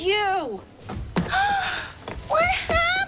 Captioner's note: gasping